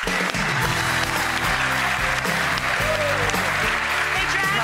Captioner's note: clapping and cheering